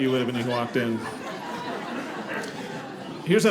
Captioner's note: audience laughing